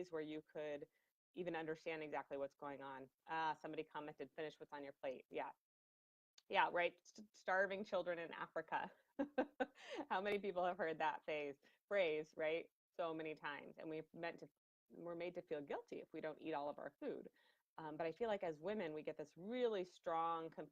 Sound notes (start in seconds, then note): 9.2 laughing